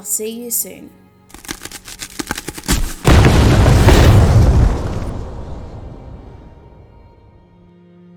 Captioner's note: exploding Sound